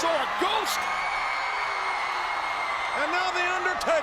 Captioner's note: audience cheers